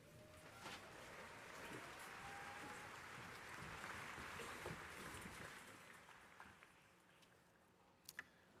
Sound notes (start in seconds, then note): 0.9 crowd applauding